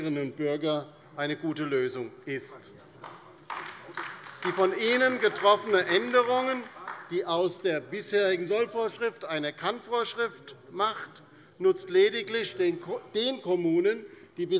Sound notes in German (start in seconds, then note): 3.0 Beifall bei der LINKEN